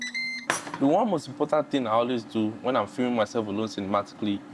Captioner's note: beeping